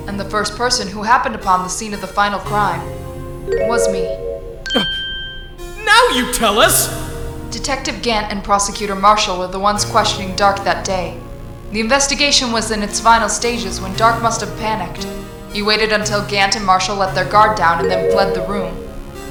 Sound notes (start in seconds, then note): 5.2 grunts!